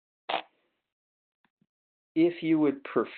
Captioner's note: static